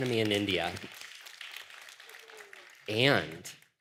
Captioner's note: applause